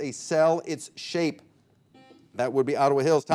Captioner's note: buzzer beeping